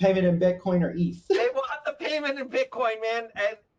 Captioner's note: laughs